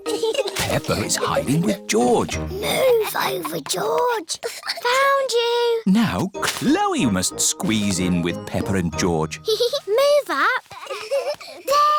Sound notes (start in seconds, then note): 3.0 whispers; 10.7 peppa giggles